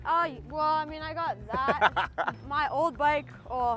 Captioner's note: laughs